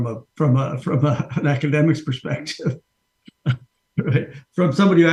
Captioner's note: chuckles